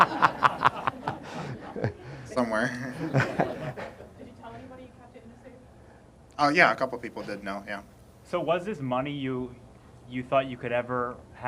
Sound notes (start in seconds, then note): 2.6 laughter